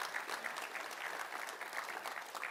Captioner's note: applause